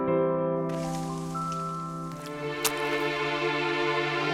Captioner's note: leaves rustling; somber music